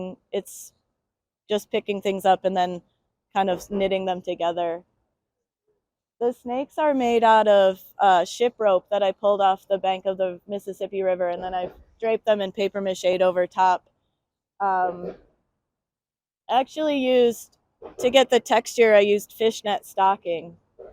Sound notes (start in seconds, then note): none